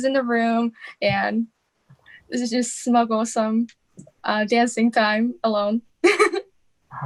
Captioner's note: laughing